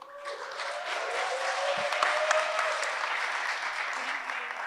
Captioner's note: audience applauds and cheers